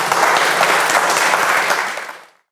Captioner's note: audience applauding